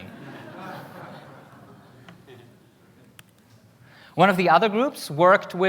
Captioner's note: audience laughter